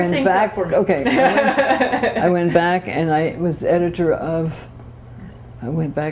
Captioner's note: laughter